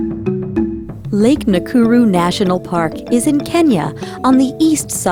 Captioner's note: voiceover